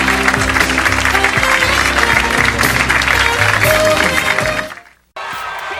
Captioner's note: audience clapping